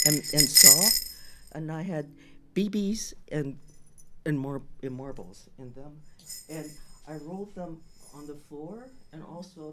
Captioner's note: drum sound, different notes; jingling sound